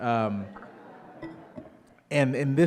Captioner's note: audience laughing